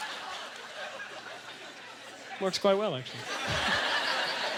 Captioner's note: audience laughter